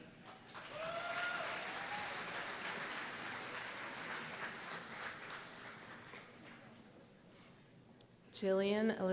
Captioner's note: applause